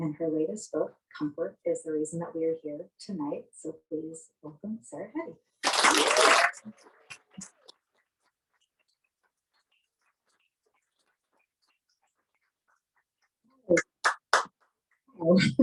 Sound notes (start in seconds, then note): 10.1 applause